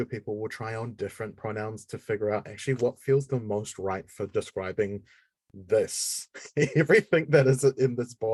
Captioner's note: laughing